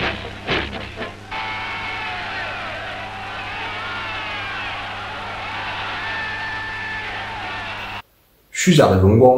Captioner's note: cheers